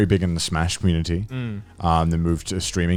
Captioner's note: affirmative murmuring